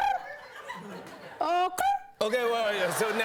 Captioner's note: chirping